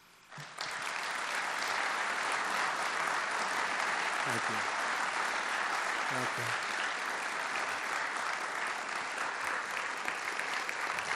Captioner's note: applause